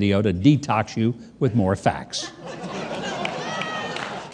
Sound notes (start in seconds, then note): 2.2 audience laughing